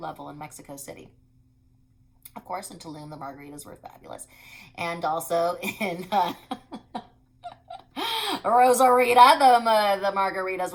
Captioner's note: laughs